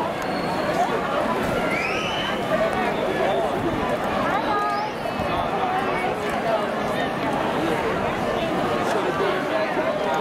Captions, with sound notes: [whistle] Hello! How are you? Hello